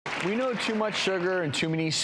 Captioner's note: applauding